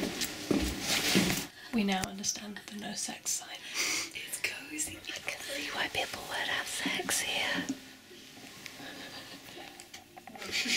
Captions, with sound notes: [whispering] ʷᵉ ⁿᵒʷ ᵘⁿᵈᵉʳˢᵗᵃⁿᵈ ᵗʰᵉ ⁿᵒ ˢᵉˣ ˢᶦᵍⁿ ᶦᵗ'ˢ ᶜᵒˢʸ ᴵ ᶜᵃⁿ ˢᵉᵉ ʷʰʸ ᵖᵉᵒᵖˡᵉ ʷᵒᵘˡᵈ ʰᵃᵛᵉ ˢᵉˣ ʰᵉʳᵉ